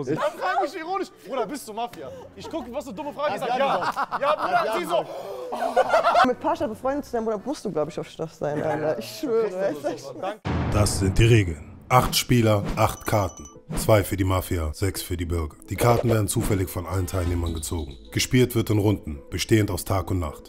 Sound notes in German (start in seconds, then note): 5.6 Lachen